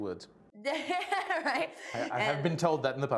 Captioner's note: laughs